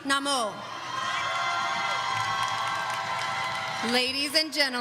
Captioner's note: audience cheering